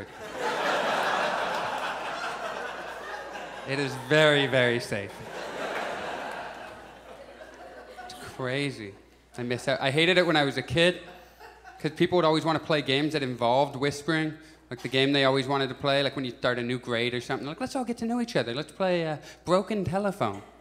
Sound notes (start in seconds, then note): 0.2 audience laughs; 5.2 audience laughs